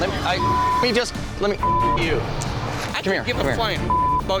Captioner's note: men arguing